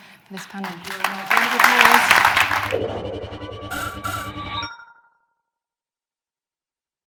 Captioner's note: audience applause; jerky electronic music